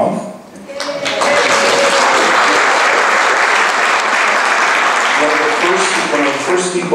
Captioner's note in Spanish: applause